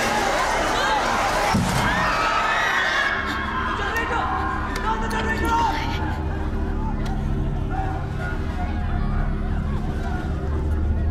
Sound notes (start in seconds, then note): 1.5 boom; 1.7 screaming